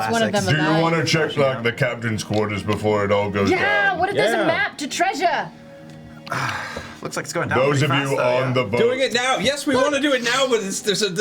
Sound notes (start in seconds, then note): 6.2 sighs